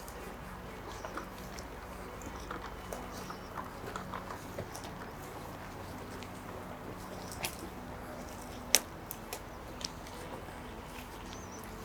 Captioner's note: snapping fingers